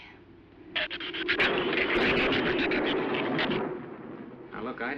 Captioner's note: shrews chattering